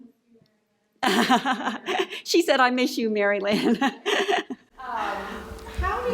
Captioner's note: laughing